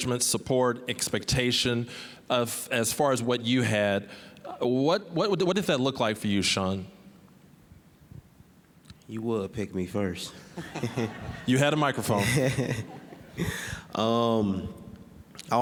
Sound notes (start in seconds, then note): 10.3 all laughing